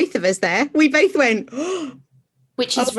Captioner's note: deep intake of breath